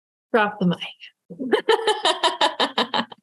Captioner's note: laughing